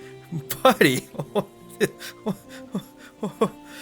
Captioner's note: laughing